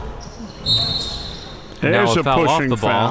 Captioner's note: whistle blowing